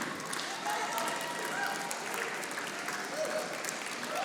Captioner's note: audience applauding